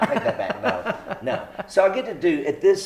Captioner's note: laughs